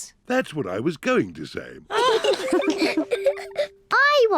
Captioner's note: all giggle